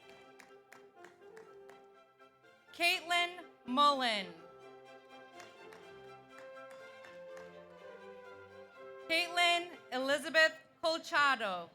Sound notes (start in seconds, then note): 0.0 audience applauds; 5.2 audience applauds